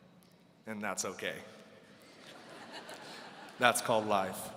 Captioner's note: audience laughing